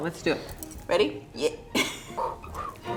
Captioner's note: laughs; bright music